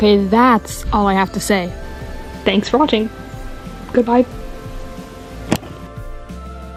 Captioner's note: thunk